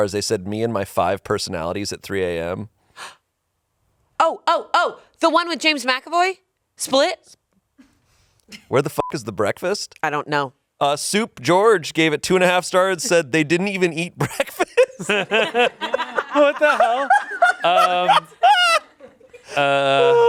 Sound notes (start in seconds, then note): 9.0 beep; 14.2 laughs